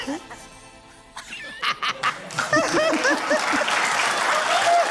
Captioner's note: laughs; laughter, applause